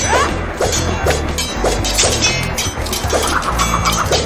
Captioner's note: swords clanging